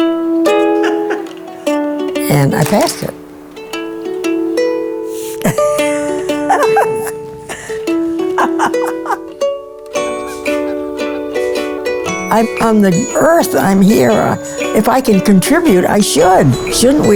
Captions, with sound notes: And I passed it. (cheerful guitar music) (laughs) (cheerful guitar music) (birds chirping) I'm the earth, I'm here. If I can contribute, I should.